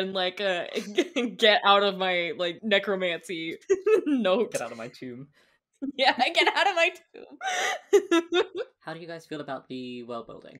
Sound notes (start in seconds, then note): 7.2 laughing